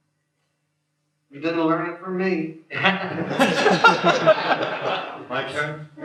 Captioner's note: laughter